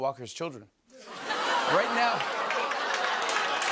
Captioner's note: audience oohs; applause